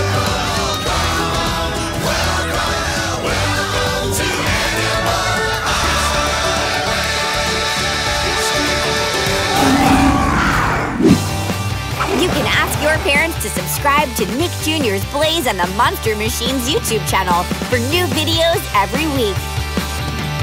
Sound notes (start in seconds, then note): 9.3 roaring